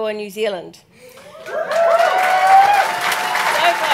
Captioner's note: cheers, applause